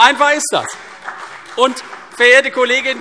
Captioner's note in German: Beifall CDU und BÜNDNIS 90/DIE GRÜNEN